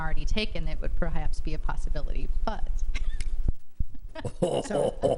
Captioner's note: laughs